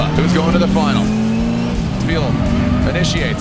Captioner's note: engines revving